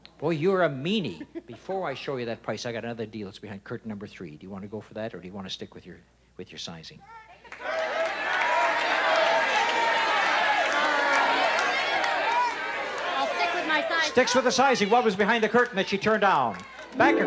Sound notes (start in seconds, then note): 7.5 shouting